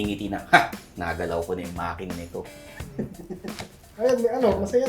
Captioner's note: scoffs